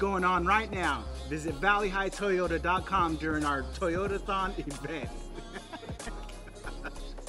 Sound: laughing

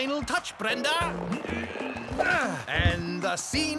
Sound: grunting

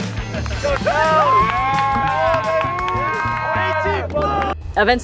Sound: students cheer

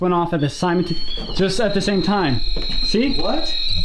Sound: machine screeching

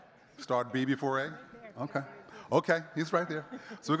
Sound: speaking faintly; chuckling

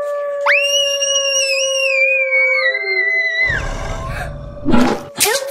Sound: screaming

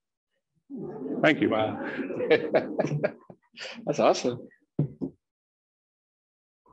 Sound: laughing

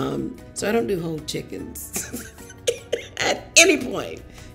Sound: laughs

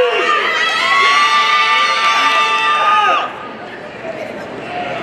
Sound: audience cheering

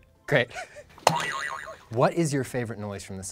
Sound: boing sound

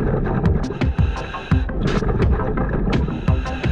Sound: continuous heavy breathing through mask; continuous water bubbling

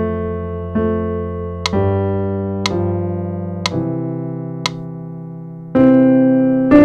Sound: metronome

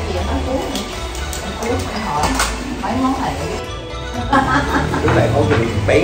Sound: laughed

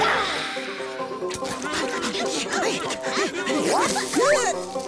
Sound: grunting

